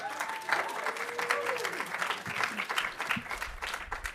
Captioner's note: audience applauding